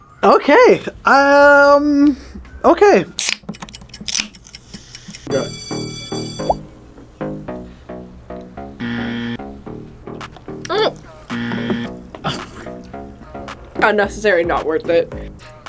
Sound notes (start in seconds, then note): 5.2 bell rings; 8.8 buzzer; 11.3 buzzer